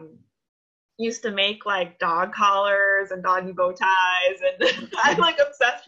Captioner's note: laughs